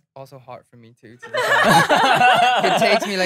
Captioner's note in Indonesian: tertawa